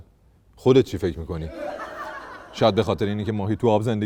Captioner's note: laughter